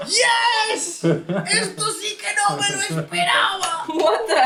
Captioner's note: Spanish